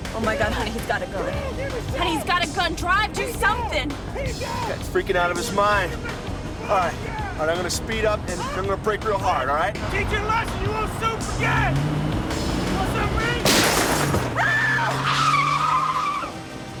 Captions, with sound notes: Oh my god, honey, he's got a gun. Honey, he's got a gun! Drive. Do something! Freaking out of his mind. All right. I'm going to speed up, and I'm going to brake real hard, all right? Teach you a lesson you won't soon forget! Want something of me? [GUNSHOT] [SCREAMING]